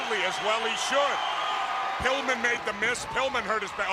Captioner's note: crowd cheering